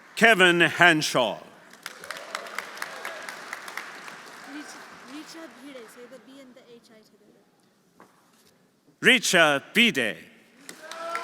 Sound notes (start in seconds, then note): 4.3 speaking foreign language; 10.6 audience applauding; 10.7 audience cheering